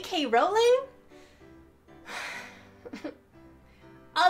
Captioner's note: sighs